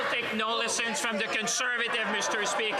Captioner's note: laughter